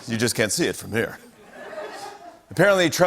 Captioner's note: laughter